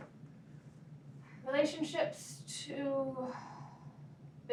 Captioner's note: sigh